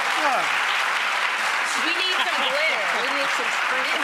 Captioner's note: audience applause